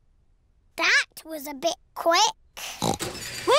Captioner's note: oinks